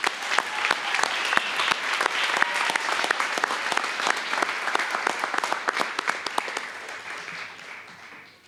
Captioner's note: applause